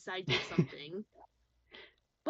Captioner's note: laughs